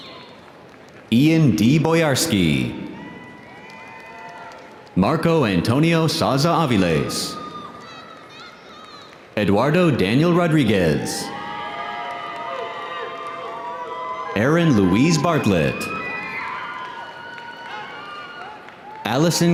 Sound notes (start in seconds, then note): 7.2 audience applauding; 7.4 audience cheering